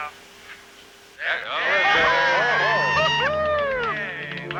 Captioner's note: cheering